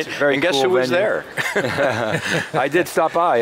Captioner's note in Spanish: risas